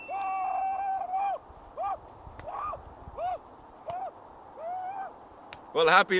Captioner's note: maniacal screaming in the background